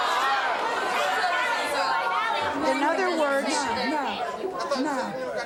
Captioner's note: audience yelling